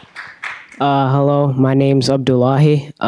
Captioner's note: applause